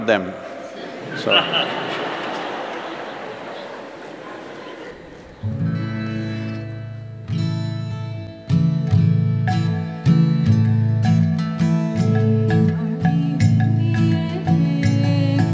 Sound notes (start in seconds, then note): 8.5 applause